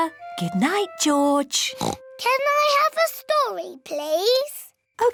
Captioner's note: oinks